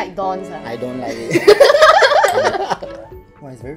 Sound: laughs

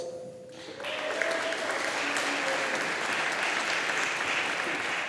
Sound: audience applauding

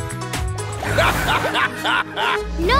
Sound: laughing

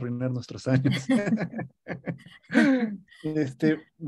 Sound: risas

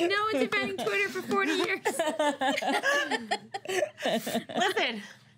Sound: girls laughing

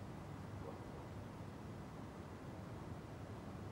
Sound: none

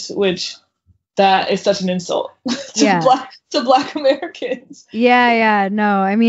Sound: laughs

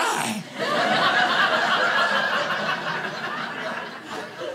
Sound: audience laughing

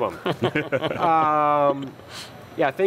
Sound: laughter

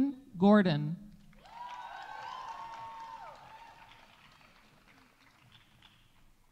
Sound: audience applauding; audience cheering

